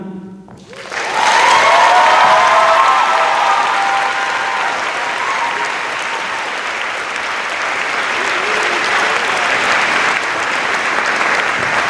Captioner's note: cheers and applause